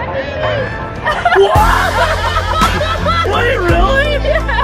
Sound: family laughing

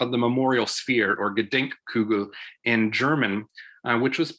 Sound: speaking German

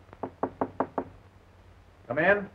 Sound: knocking on door

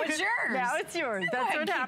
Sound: laughter

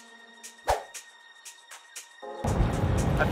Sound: swoosh

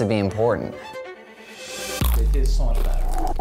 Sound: crunching

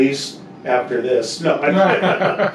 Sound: chuckling

